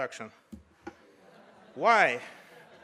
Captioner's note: audience laughs